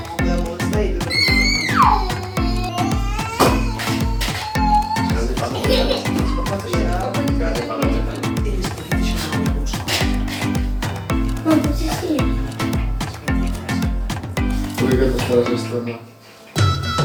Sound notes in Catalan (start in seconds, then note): 4.6 castellà